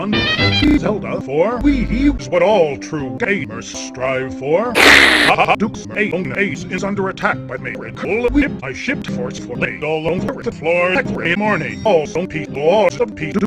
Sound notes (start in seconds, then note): 4.8 Mick slurp